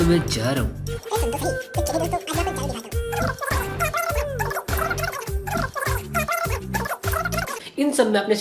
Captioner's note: repeating sound